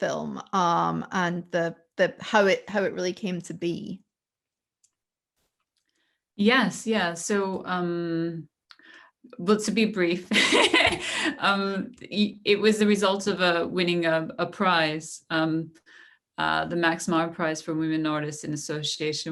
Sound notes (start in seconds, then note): 10.3 laughter